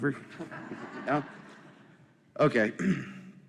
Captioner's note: laughter